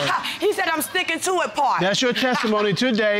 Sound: scoffs

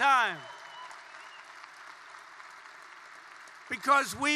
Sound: applause

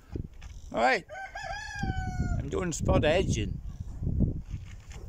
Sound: cock crows

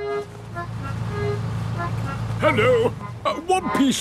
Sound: none

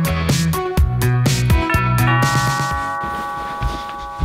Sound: doorbell rings

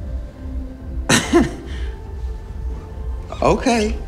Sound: laughs

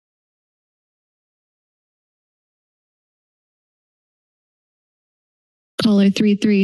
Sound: silence

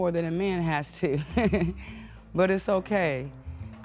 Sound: woman laughs

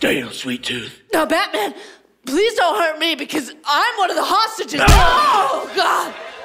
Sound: punch

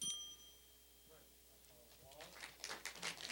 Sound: bell dinging; applause

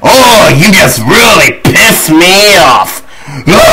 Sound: scream

